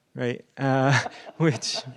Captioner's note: laughter